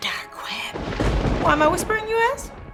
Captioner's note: thunder booming